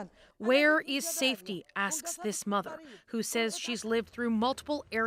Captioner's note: speaking alternate language